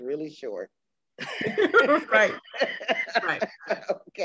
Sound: all laughing

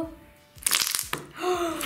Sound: crackling; gasping

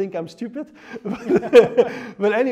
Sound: both laugh

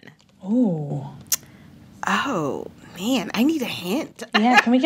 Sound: laughter

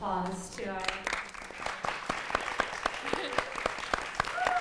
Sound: applause

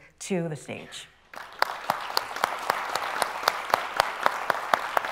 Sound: people clapping

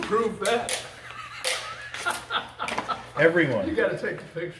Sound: laughter

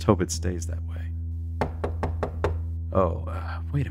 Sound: knocking on door

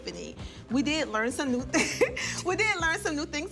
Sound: laughing

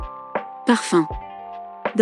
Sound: french Speaking

